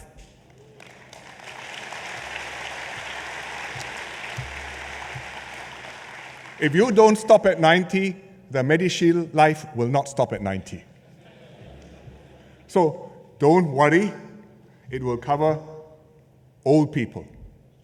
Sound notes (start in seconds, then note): 0.2 applause